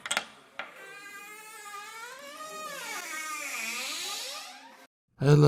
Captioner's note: door Creaking